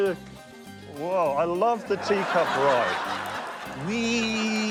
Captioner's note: laughter